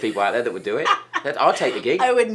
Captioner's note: Christine laughs